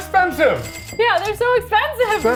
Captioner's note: cash registers ding